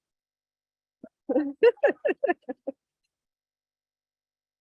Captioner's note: laughing